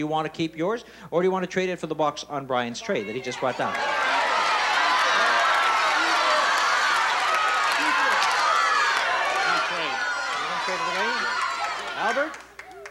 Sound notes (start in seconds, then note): 4.8 shouts and cheers